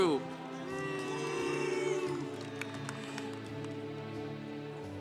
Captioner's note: congregation applauding